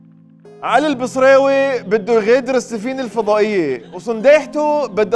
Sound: Lebanese accent

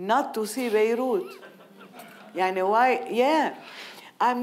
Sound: audience laughing

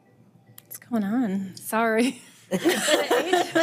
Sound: device chiming; all chuckling

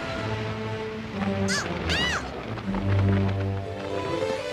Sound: exclaims

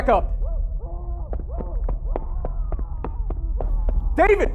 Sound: David screams

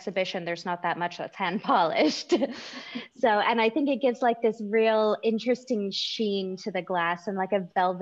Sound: chuckles

